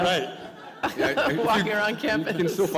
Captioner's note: chuckle